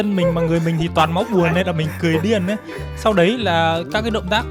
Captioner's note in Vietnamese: tiếng cười